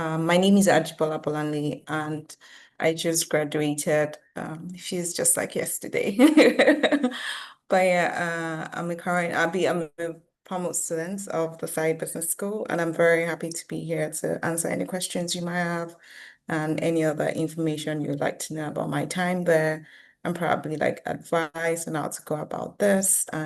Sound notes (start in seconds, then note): 7.1 laughs